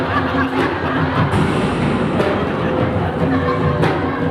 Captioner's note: slow-mo gunshot